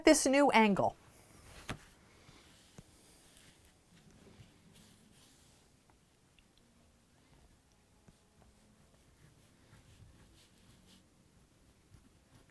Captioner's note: no significant sound